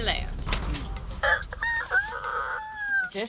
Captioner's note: mimicking a rooster sound